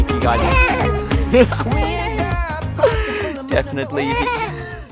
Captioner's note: laughs; baby laughs